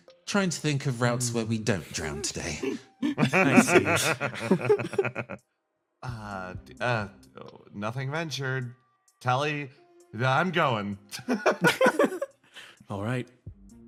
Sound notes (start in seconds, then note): 2.1 laughs; 11.1 laughs